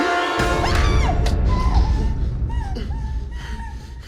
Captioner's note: Michelle groaning